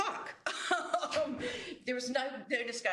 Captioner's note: laughs